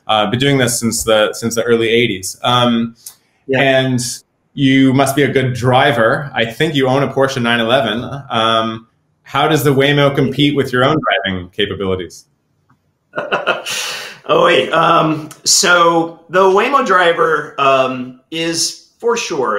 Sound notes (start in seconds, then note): 13.1 laughs